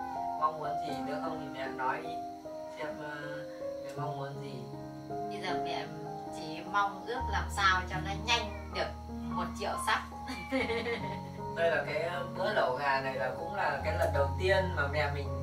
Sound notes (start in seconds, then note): 10.2 giggle